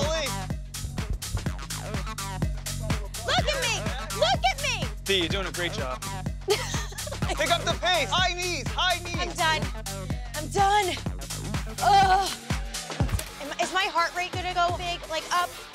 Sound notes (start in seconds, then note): 0.1 upbeat music; 6.4 Deena laughs